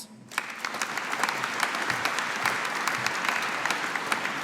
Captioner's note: audience applauding